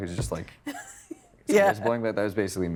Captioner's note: chuckling